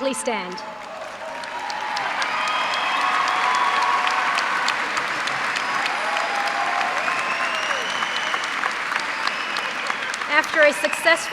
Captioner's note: cheers and applause